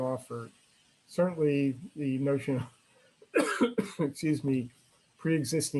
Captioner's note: coughs